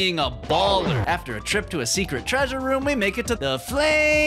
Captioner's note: none